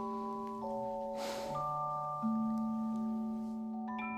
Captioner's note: sigh